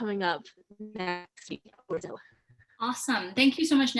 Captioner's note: audio fading away